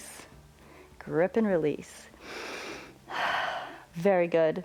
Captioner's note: inhales and exhales